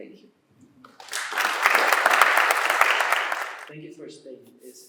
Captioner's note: applause